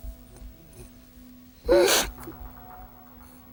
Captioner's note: crying